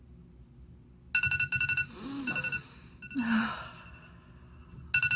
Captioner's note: alarm ringing